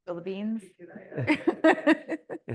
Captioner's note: laughter